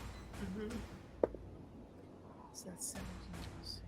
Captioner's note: dice rolls; Maeve murmurs faintly